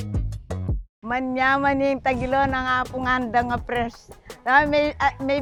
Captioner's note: speaks in Kapampangan